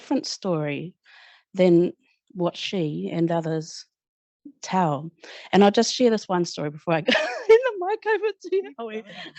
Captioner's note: laughter